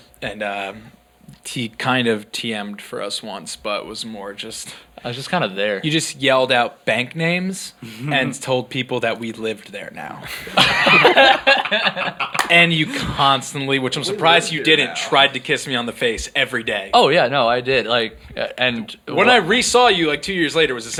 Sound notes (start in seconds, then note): 10.3 laughing